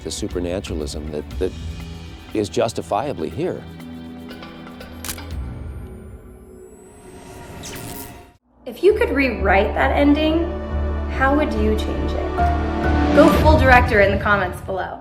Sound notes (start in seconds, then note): 4.9 camera snapping; 7.8 deep tense music